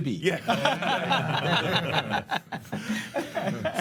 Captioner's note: loughs